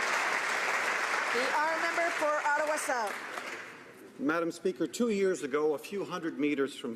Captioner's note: applause